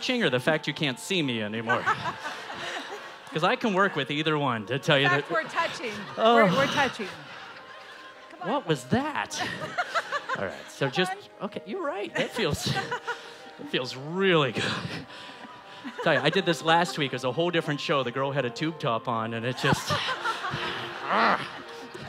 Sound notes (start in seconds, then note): 9.2 laughter